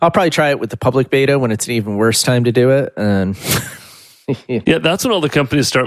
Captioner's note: laughs